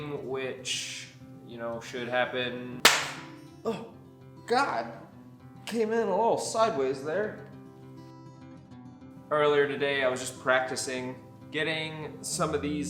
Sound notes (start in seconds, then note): 2.8 clap